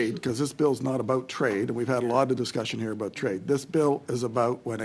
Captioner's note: speaking French